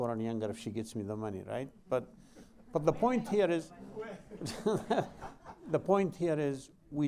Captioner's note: laughter